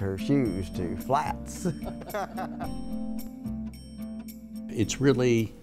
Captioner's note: laughter